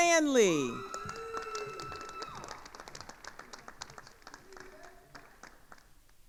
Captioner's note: attendees cheering and applauding